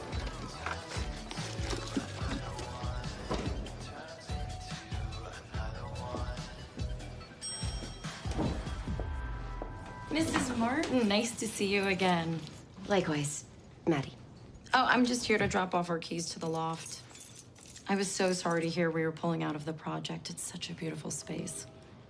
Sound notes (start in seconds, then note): 7.4 elevator bell dings